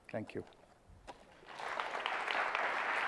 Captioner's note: applause